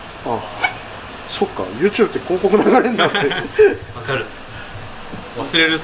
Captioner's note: laughs